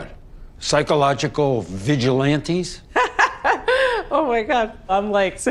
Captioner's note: As Gaby, laughter